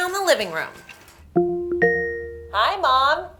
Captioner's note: device chimes